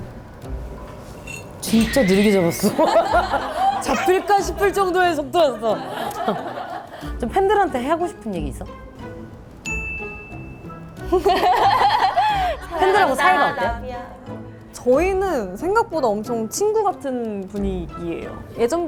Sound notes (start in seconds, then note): 2.4 hehe